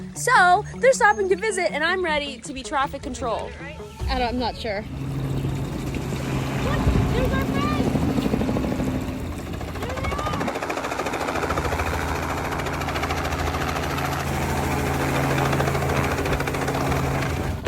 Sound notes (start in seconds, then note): 6.3 distant yelling; 13.2 helicopter blades whirring